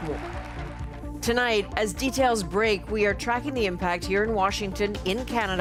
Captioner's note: applause